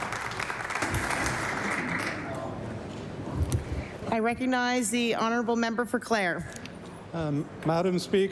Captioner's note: applause